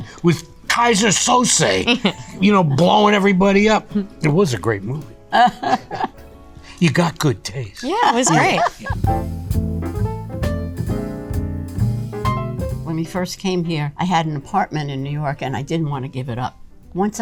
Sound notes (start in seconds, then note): 1.4 chuckles; 5.3 Rhea laughs; 7.8 Rhea laughs; 8.8 instrumental jazz music